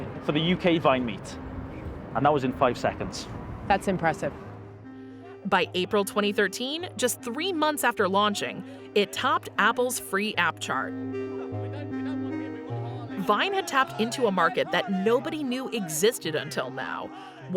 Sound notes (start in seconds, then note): 10.0 crowd chatters; 11.1 mellow electronic music